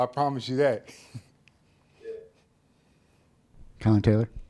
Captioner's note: chuckles